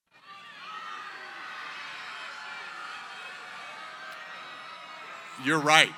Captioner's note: yelling